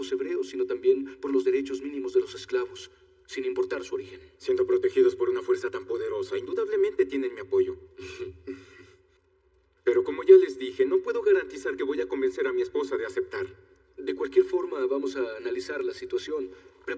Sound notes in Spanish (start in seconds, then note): 8.0 Ríe